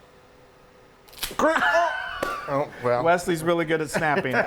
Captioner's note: spaghetti noodles snapping